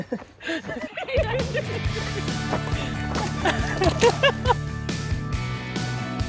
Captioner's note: laughs; upbeat rock music